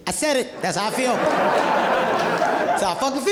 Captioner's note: audience laughing